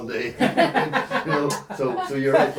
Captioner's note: laughing